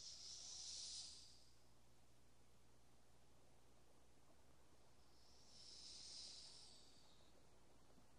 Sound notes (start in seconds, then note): 0.0 snake hissing